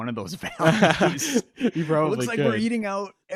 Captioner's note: both laughing